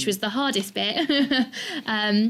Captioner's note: chuckles